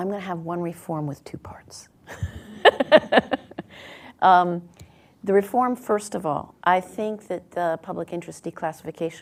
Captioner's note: laughs